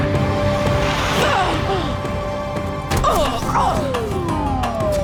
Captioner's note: grunting